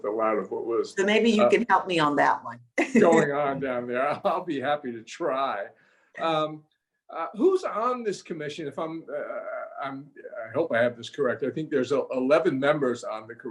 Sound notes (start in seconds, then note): 3.0 laughs